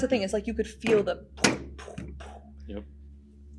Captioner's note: thuds